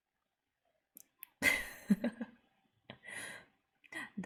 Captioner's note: laughs